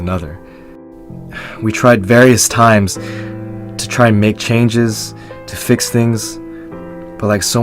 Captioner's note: sigh